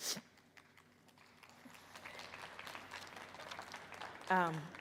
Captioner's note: audience applauding